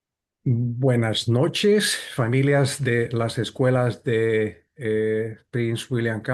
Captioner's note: interpreter speaking in Spanish